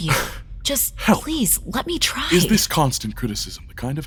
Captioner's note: incensed